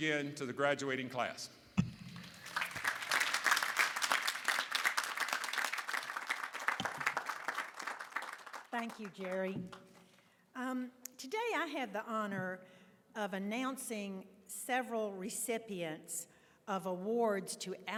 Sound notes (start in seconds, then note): 10.6 applause